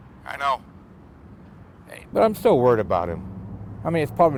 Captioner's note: none